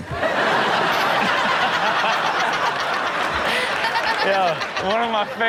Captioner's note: Rob, Chanel, and audience laughing